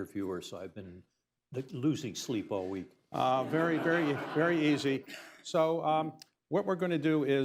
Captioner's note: laughter